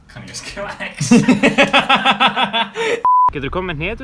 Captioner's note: laughing